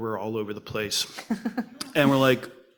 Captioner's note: laughs